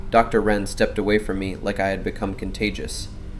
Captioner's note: thoughtful